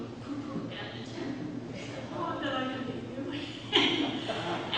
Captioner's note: laughs